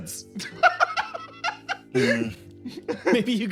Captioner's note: laugh